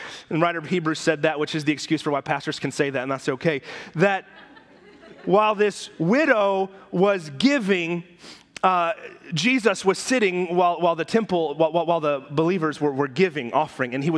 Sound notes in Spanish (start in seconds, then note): 3.9 risas de la congregación